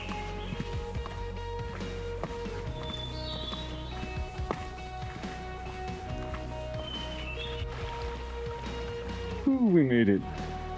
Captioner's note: birds chirping